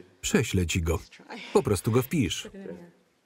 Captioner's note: laughs